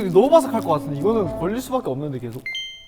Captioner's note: rustle